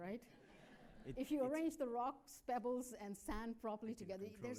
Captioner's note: laughter